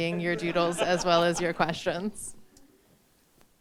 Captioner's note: all laugh